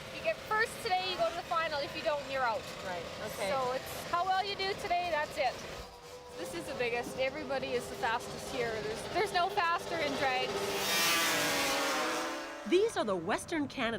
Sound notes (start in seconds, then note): 9.3 engines revving